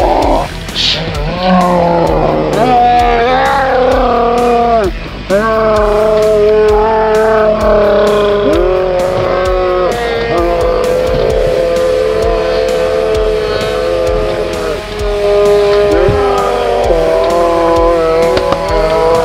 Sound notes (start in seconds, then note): 1.6 both yelling in slow motion